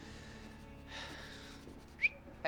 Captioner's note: whistles